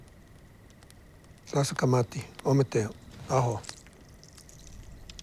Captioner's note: speaks native language